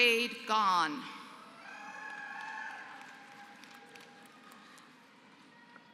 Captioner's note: applause